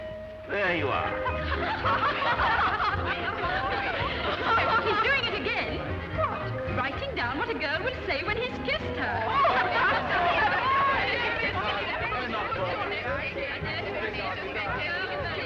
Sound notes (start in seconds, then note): 1.1 women laughing; 8.4 laughing; 12.1 people murmuring